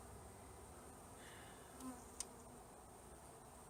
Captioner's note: sigh